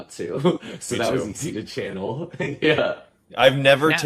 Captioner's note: chuckles